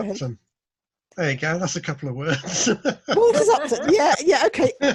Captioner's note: laughs